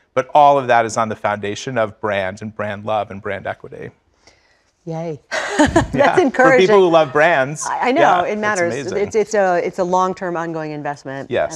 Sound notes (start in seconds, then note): 5.4 laugh